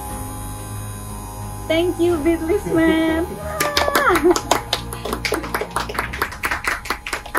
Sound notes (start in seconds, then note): 3.5 applauses